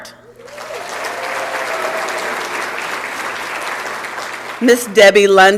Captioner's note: applause and Cheering